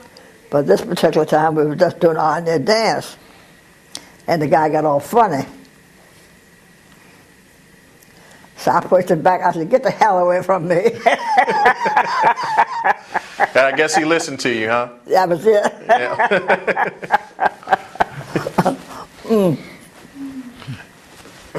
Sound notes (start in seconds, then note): 11.0 laugh; 15.6 laughter